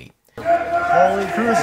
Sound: man screams

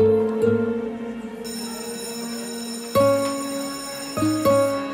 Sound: bell ringing

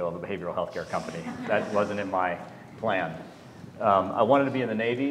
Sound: laugh

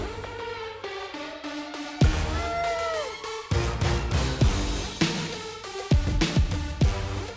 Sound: groans

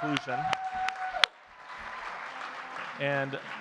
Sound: audience cheers and claps

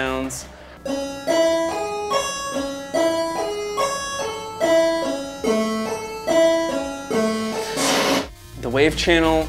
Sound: bleepy-bloopy sounds going up and down a scale

